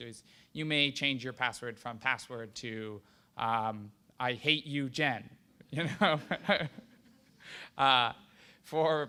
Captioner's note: laughter